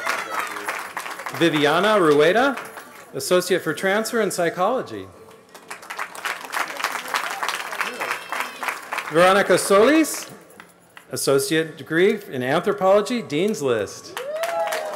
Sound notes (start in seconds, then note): 0.0 cheering; 5.3 applause; 14.1 cheering